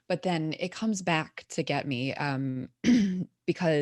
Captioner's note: clears throat